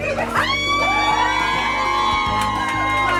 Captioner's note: audience cheering